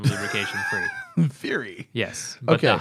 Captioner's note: laughter